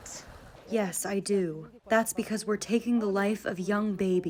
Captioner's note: through translator